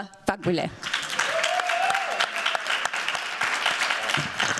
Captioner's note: cheers, applause